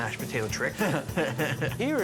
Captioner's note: laughing